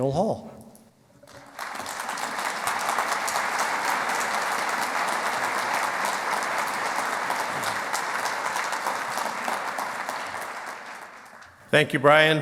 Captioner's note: clapping